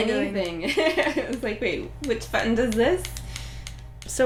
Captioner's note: laughing